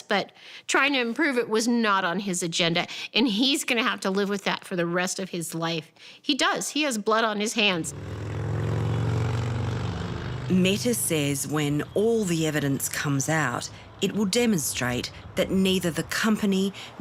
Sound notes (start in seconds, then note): 7.8 motorcycle engine rumbling